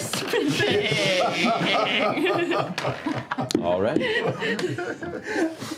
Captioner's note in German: Lachen